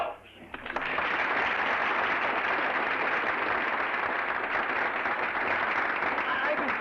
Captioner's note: applause